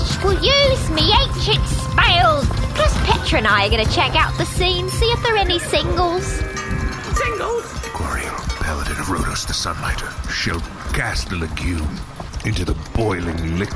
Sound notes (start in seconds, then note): 7.4 rattling